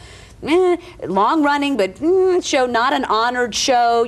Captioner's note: winces